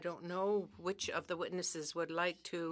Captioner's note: speaking French